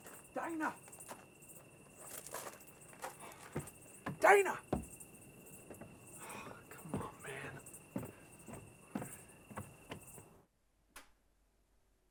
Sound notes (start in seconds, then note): 6.2 sighs